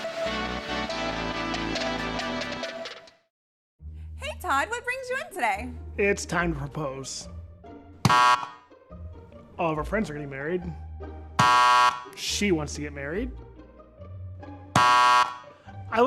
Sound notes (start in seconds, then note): 8.0 buzzer buzzes; 11.4 buzzer buzzes; 14.7 buzzer buzzes